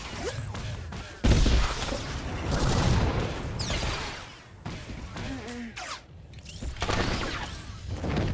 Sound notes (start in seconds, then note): 4.1 gun firing